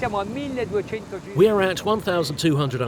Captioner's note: speaks in foreign language